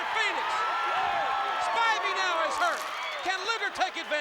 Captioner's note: applause